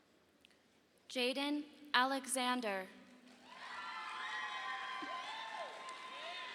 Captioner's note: audience applauding